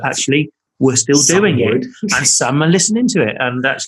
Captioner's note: laughing